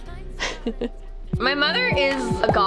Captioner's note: giggle